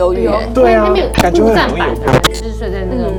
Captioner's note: microphone signal going haywire again